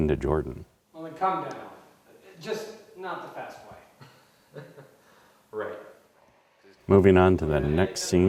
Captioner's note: laugh